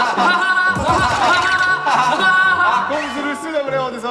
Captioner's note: hahahaha